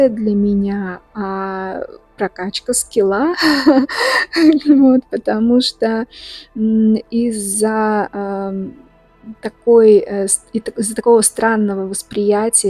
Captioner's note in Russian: смех